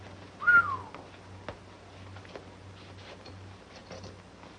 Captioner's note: whistles